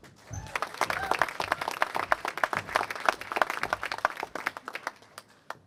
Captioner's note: applause